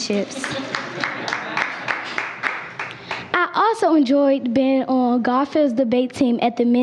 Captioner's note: applause